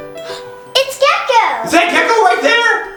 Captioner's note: gasps